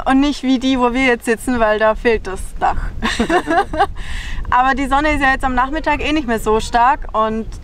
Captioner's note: laughs